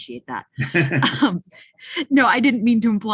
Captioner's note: laughing